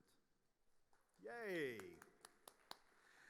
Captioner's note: audience applauding